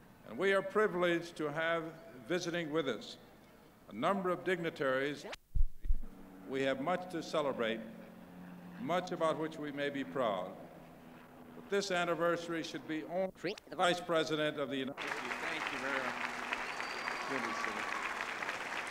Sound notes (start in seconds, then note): 5.6 camera noise; 13.0 camera noise; 14.9 applause